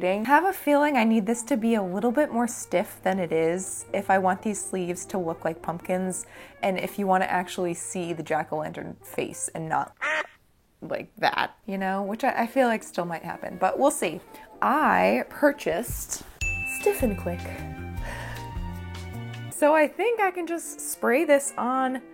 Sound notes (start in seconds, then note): 10.0 duck quacking